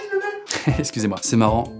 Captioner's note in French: rire